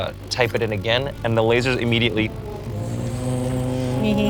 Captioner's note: buzzes